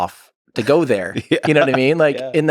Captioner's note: Lex laughs